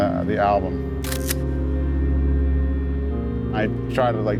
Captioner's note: camera snapping